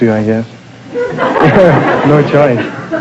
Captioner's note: audience laughter